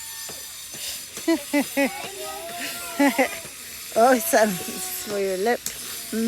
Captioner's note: laughter